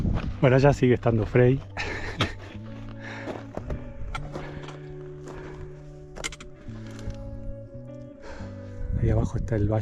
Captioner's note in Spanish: risas